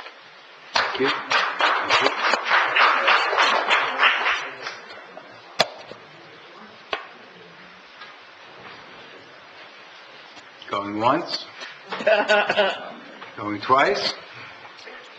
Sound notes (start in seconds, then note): 2.7 audience applauds; 11.9 laughs